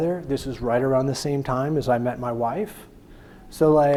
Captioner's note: none